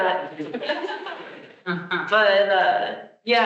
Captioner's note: attendees laughing